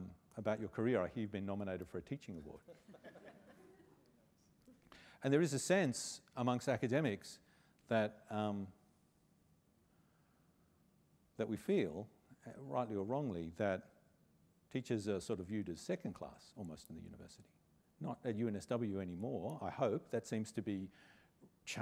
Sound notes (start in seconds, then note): 2.6 laughter